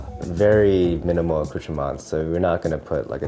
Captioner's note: speaks in foreign language